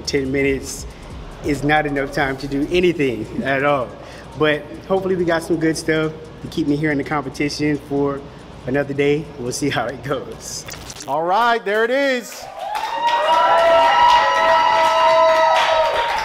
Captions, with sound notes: 10 minutes is not enough time to do anything at all. But hopefully we got some good stuff to keep me here in the competition for another day. We'll see how it goes. - All right, there it is. (cheering)